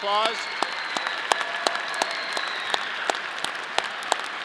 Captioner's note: audience cheering